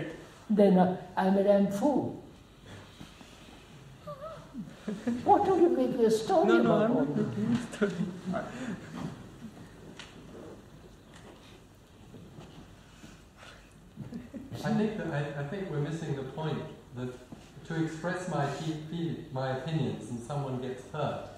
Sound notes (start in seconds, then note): 4.0 laughs